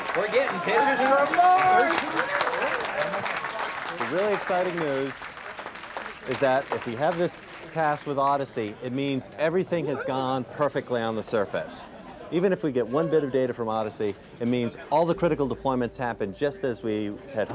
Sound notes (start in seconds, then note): 2.3 crowd cheering